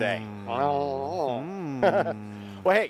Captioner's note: giggling